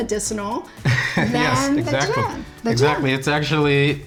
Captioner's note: laughs